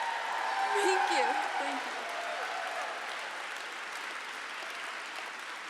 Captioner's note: audience cheers